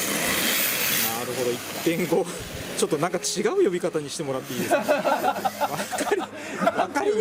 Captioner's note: laughs